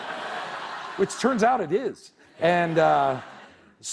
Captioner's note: laughter